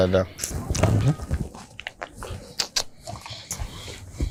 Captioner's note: hiss